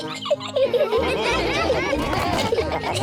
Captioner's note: all laughing; laughs